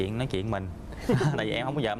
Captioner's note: laughs